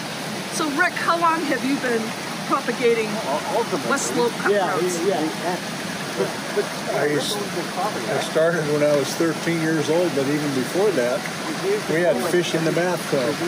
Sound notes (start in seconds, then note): 5.3 water thrashing